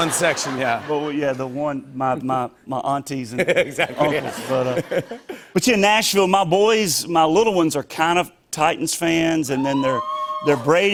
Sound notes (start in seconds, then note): 3.5 light laughter; 9.5 scattered cheers